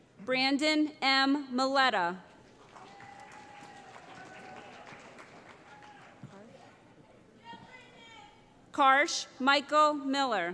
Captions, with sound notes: Brandon M. Miletta [ Cheering ] Karsch Michael Miller